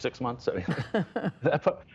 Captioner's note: laughter